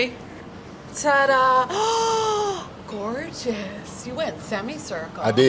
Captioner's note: gasps